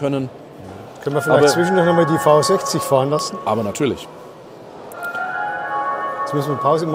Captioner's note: exhibition bell sounds!; the bell again